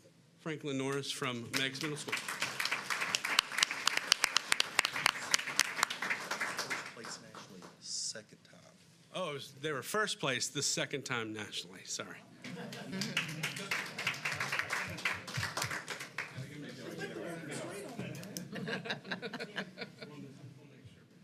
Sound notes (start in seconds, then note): 9.0 applause